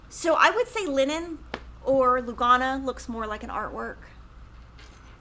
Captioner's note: none